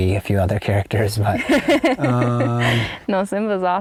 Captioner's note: laughing